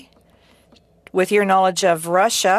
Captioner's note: speaking french